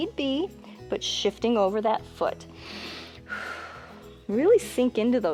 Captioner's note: inhales and exhales